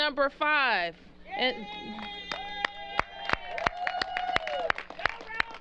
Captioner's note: cheers and applause